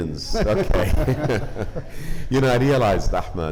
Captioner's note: group laughing